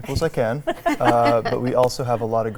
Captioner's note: laugh